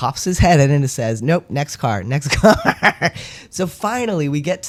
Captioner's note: laugh